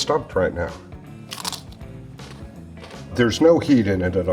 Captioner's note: pepper crunches